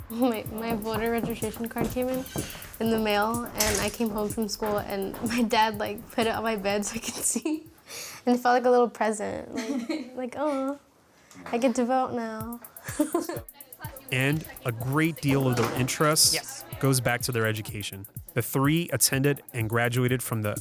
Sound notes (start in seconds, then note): 12.7 laughs